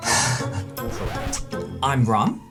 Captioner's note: record scratch